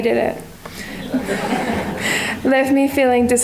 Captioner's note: audience laughter